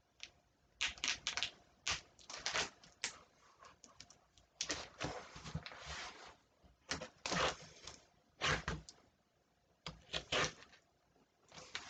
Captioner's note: ripping of packaging tape